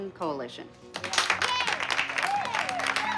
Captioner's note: clapping and cheering